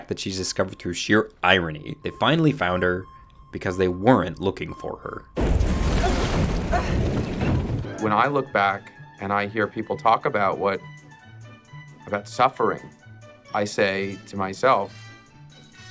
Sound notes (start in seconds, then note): 5.8 boat rumbling